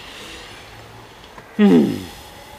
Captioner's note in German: seufzt